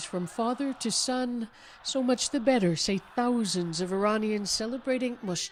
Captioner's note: chanting